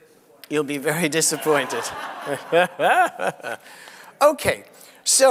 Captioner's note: laughs